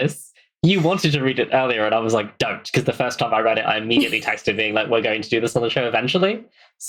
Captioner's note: laughs